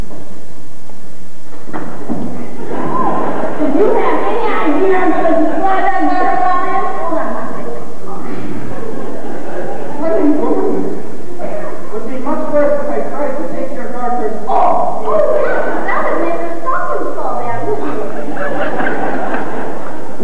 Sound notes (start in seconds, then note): 2.6 laughter; 8.6 laughter; 17.8 laughter